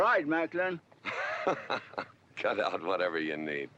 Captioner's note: GW laughing